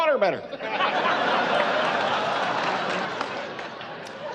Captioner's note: laughing